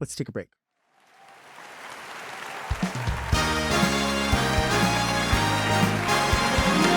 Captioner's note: audience applauds; upbeat music